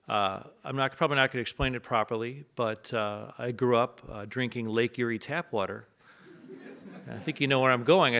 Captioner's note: audience laughs